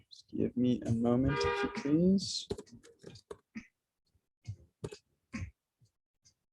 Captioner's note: horn blowing